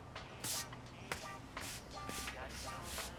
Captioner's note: sweeping